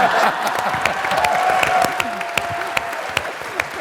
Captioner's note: laughter; applause